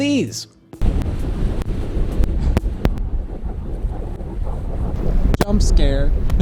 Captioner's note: geyser erupting